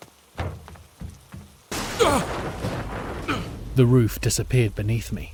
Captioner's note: SFX crashing, lots of crashing